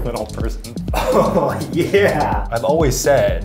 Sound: laughs

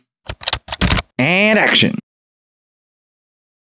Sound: typing Sound

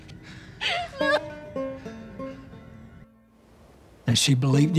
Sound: weeping

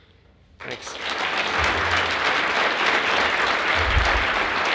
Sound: audience applauds

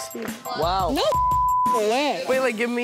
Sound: beep

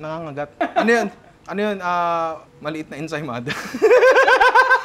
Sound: laughs; laughter

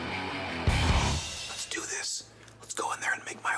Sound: whispering

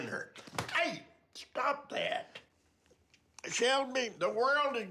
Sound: slap

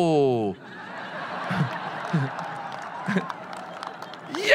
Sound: audience laughing

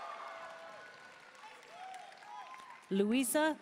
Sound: audience cheering and applauding; audience member shouting

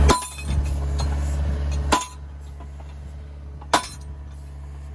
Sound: metal clinking

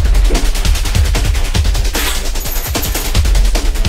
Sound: keys plinking and plonking

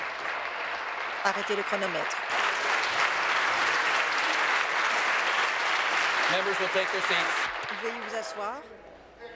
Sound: applause

